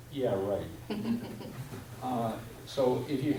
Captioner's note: woman laughs